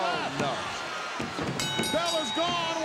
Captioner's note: ring bell dinging